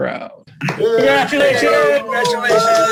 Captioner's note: cheering